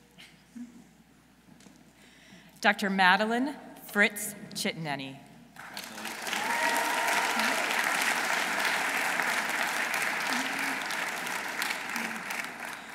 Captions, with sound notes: Dr. Madeline Fritz Chittineni. -(audience cheering) -(audience applauding)